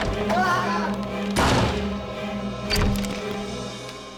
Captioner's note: door slams; mysterious music